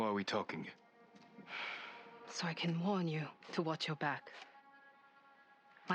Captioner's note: sigh